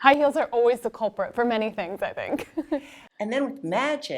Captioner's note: laughs